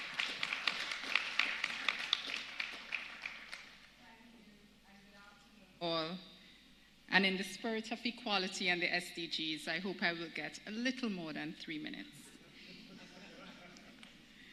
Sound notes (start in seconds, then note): 3.2 applause